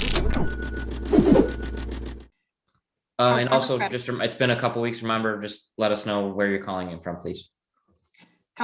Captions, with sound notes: (digital swooshing) - And also just, it's been a couple of weeks, remember, just let us know where you're calling in from, please.